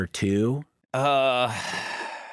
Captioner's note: sighs